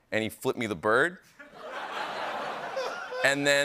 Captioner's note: laughter